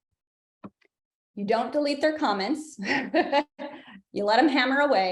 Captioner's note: laughs